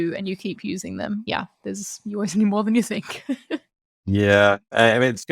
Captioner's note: laughs